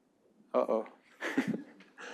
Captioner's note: chuckling